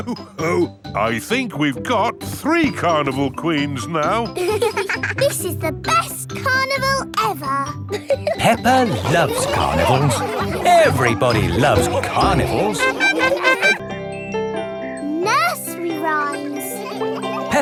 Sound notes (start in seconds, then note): 4.9 both giggling; 13.2 laughing